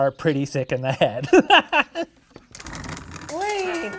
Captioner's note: laughing